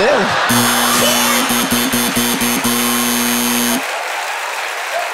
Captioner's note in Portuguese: campainha e aplausos